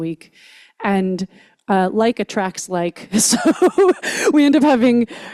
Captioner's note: laughs